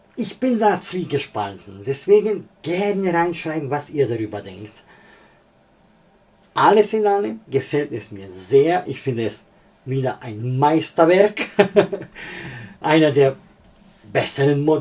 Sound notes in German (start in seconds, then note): 11.4 gelächter